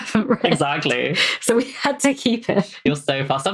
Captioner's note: laughs